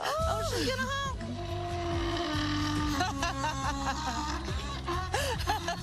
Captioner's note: laughing; donkey braying; laughing